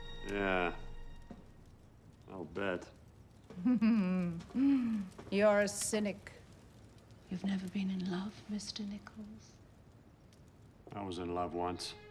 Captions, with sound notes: Yeah. I'll bet. (CHUCKLING) You're a cynic. You've never been in love Mr. Nickels? I was in love once.